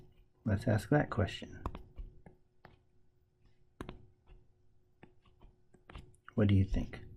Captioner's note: tapping Sounds